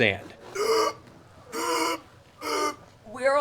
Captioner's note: wheezing sounds